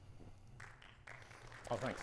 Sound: audience applauding

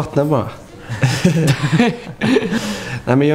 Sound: chuckles

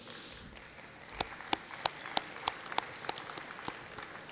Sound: audience applauding

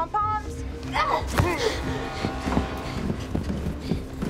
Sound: Cindy panting

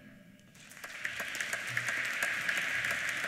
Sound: applause

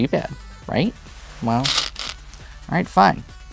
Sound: stones rattling

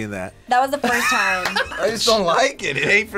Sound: laughs

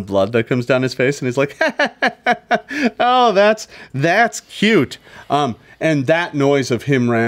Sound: laughs

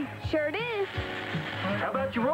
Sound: RC robot whirrs

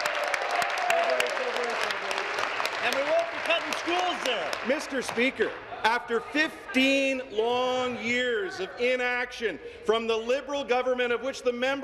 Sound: cheers; applause

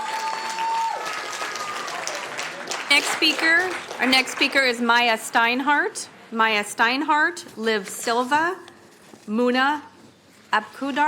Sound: applauding

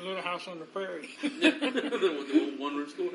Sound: laughs

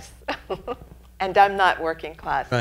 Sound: laughing

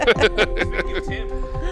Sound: laughing

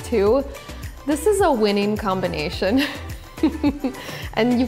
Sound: laughs

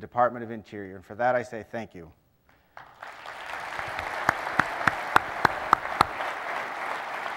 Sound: applause

